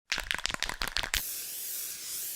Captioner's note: spray can rattling; spray paint hissing